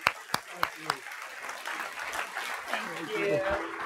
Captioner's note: applause